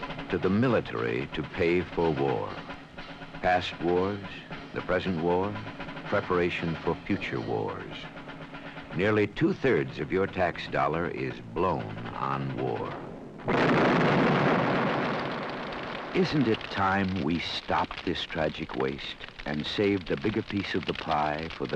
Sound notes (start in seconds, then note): 13.6 bomb exploding